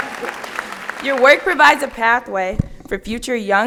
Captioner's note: laughter